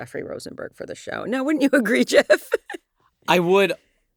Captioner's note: laughs